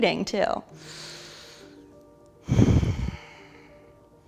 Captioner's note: deep breathing